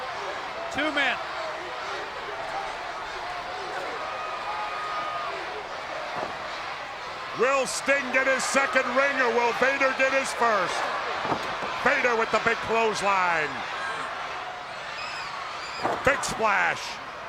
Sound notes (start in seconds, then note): 1.8 crowd cheering